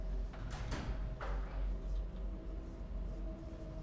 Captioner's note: bathroom door opens